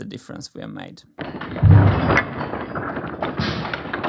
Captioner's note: slow motion MMX noise